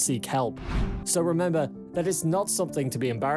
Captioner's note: screen swishes